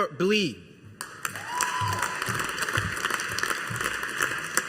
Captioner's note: audience applauding